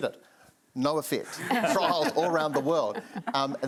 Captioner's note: panellists laugh